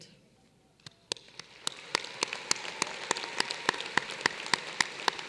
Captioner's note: applause